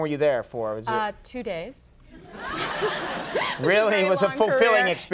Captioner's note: audience laughing